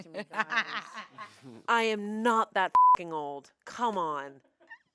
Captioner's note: beep